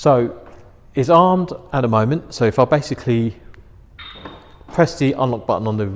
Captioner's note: chirp